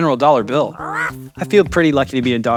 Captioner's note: dog barks